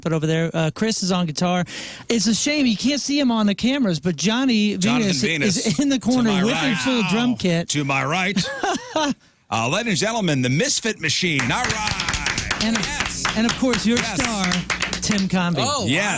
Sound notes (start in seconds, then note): 8.3 laugh